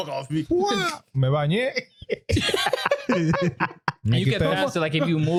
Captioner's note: speaking In Foreign Language; laughing